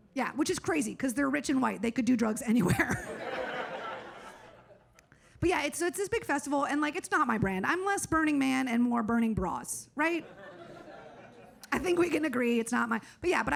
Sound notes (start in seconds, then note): 2.8 audience laughs; 10.2 audience laughs